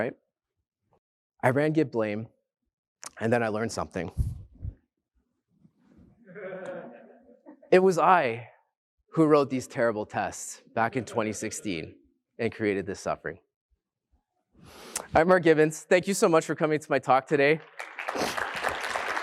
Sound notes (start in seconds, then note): 11.0 laughter